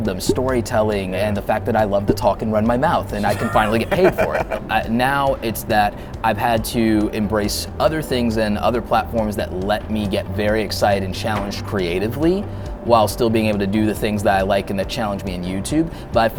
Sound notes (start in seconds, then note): 3.1 laughing